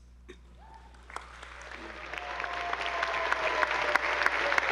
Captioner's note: attendees applauding